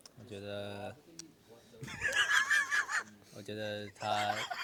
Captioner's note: laughs